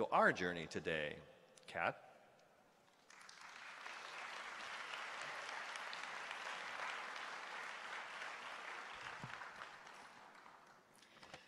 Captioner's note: applause; speaking hawaiian